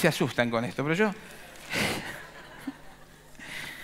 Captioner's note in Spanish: Risas